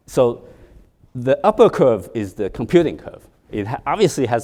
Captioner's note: none